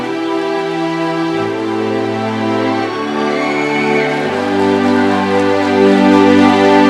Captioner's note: applause and cheering; classical orchestral music